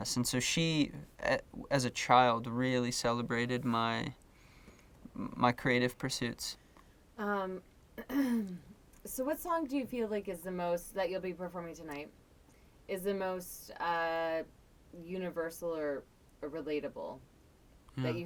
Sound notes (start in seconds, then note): 8.0 clearing throat